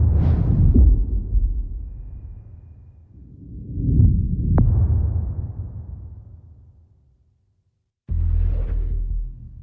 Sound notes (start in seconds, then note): 1.7 dramatic sound